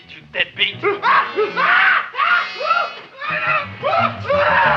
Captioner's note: man screaming